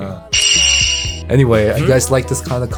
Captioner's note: high-pitched clinking